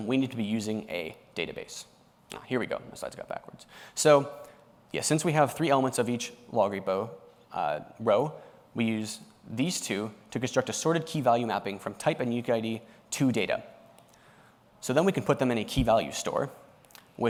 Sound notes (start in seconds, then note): none